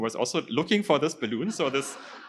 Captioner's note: laughter